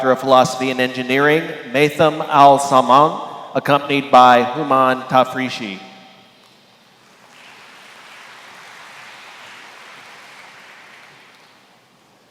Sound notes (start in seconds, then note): 7.1 applause